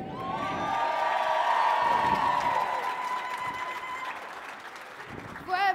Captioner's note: audience clapping and cheering